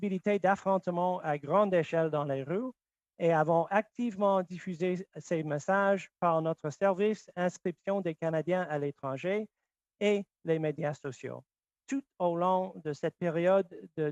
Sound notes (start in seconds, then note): 0.0 speaking French